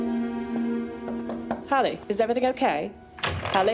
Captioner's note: knocking